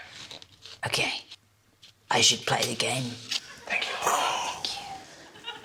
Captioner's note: gasps